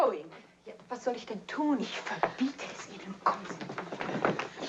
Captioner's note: speaking foreign language